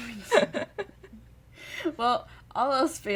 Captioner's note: laughter